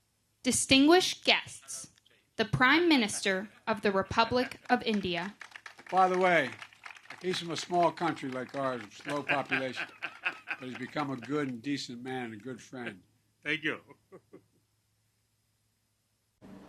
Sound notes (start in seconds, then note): 4.8 applause; 8.8 laughter; 13.5 laughs